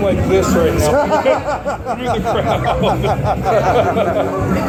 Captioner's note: laughter